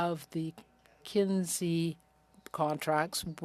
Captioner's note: speaking French